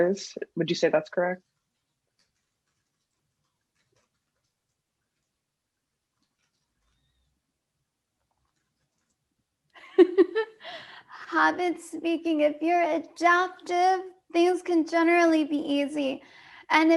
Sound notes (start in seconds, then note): 9.8 laughing